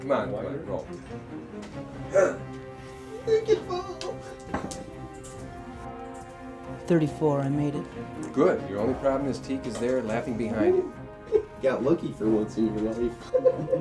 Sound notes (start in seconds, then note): 2.1 suspenseful music; 4.9 dice clatter